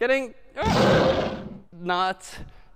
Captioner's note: lions roars